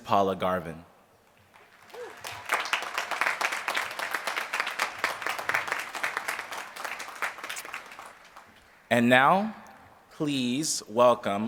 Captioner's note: applause